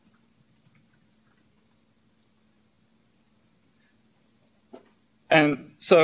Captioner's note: pause